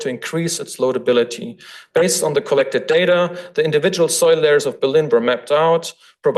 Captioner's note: none